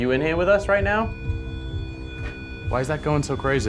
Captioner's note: machine buzzing